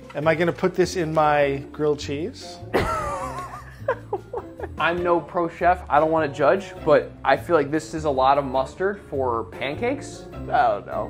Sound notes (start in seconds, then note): 2.7 laughs